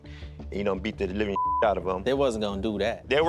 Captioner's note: beep